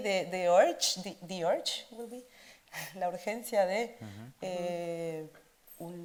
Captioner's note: speaks Spanish